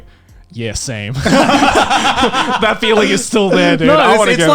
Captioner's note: laughing